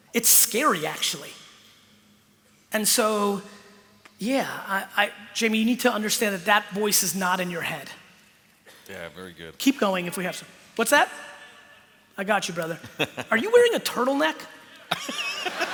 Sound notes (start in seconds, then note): 11.3 speaking off mic; 14.8 laughter